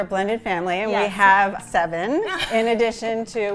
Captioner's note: chuckles